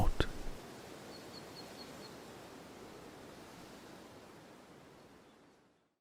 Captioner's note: wind and birdsong